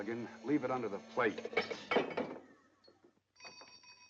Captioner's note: cup clatters; door bell jingling